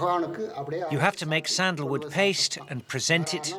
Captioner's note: foreign language; voiceover